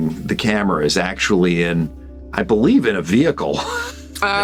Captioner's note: laughs